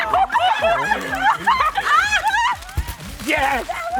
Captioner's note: everyone laughing